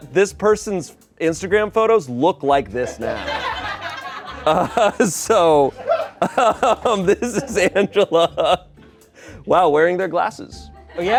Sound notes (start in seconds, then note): 3.0 everyone laughs; 8.1 laughs